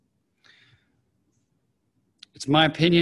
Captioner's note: silence